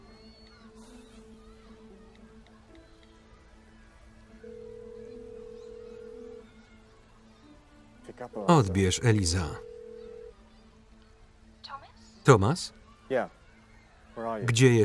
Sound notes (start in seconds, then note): 9.6 phone dailing